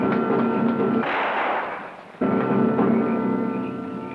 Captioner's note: gun fires